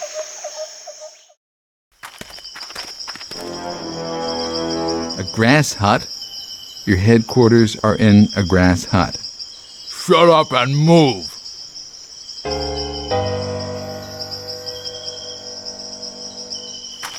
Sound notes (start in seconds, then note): 3.2 footsteps; 12.4 jungle sounds